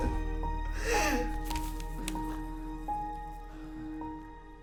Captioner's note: sobbing